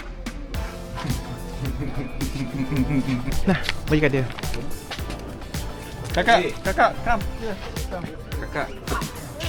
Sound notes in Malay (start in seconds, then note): 0.7 gelak